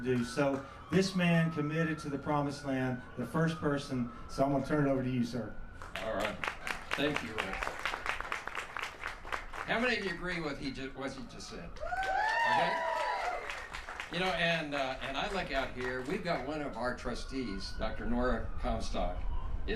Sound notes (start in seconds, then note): 7.9 applause; 11.8 cheers